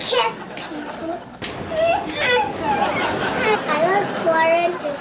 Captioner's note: slapping and whimpering